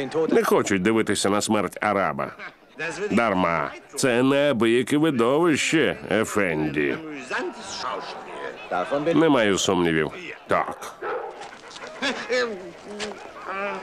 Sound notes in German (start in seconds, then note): 10.8 Dojan bellt